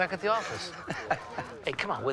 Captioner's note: laughs